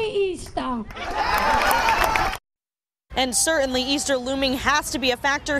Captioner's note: claps/laughs